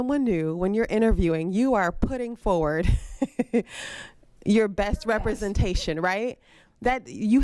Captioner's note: laughs